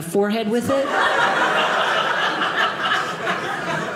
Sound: audience laughing

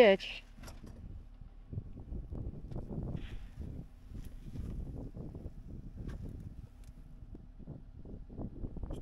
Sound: wind

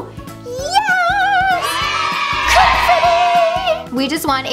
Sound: children cheering

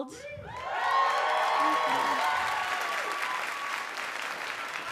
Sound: audience cheer and applaud

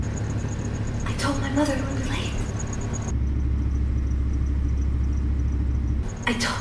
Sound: insects chirping; disembodied Voice

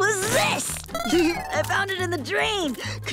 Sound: chuckles

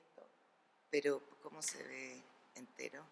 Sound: speaking spanish

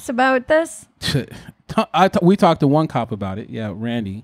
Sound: scoffs

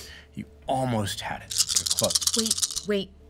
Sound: dice rolling

